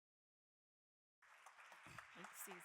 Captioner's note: audience applauding